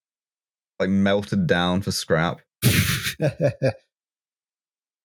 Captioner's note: laughs